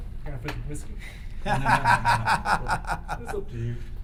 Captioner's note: laughter